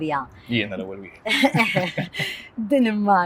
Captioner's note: both giggle